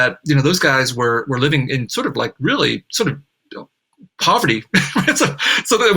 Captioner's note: laughs